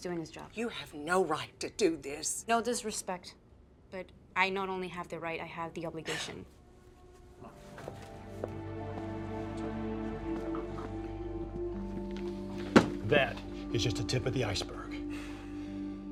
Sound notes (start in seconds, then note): 6.1 Louisa scoffs; 6.6 somber music